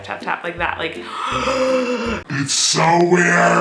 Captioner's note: gasping